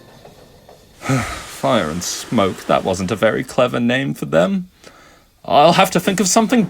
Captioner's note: sigh